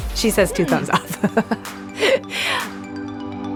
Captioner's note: laughing